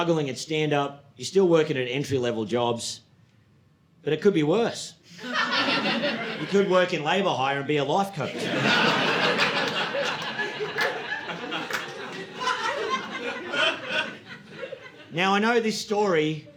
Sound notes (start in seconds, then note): 8.2 audience laughing